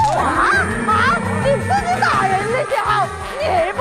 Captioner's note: voice cracking with rage